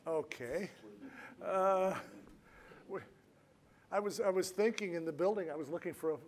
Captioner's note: laughs